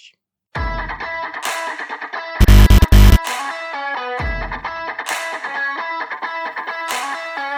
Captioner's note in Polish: Aplauz